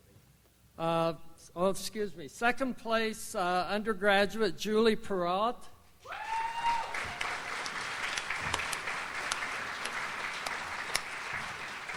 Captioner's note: audience applauds